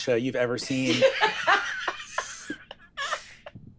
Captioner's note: laughing